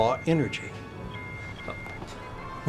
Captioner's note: alarm